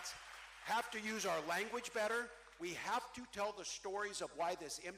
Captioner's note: cheering